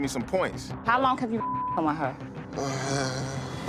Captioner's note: beep